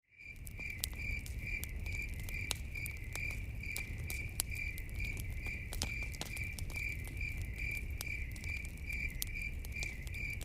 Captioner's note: crickets and campfire crackling sounds